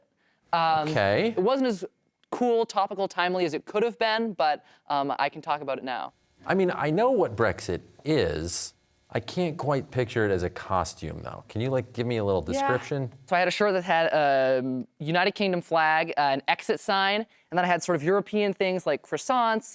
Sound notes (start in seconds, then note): none